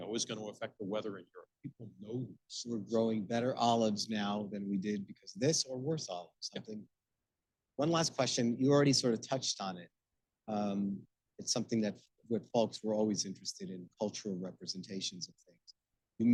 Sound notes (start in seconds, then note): 6.5 speaking faintly